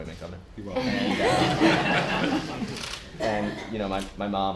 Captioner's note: laughter